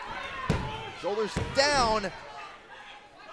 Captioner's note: crowd cheering